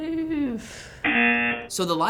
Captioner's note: rejection buzzer